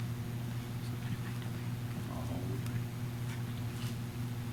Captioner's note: faculty conversing quietly